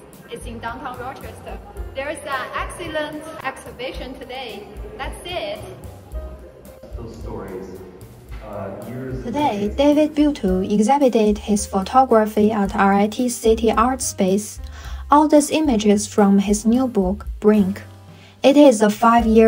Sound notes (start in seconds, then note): 9.1 voiceover